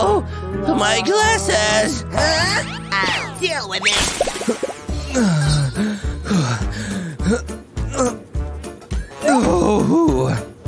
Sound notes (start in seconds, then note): 5.0 moaning